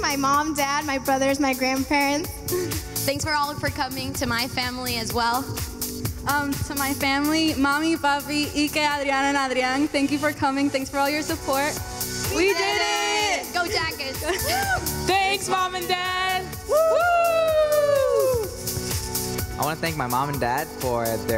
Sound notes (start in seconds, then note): 7.8 speaking in foreign language; 12.6 in Unison; 15.1 in Unison; 16.7 cheering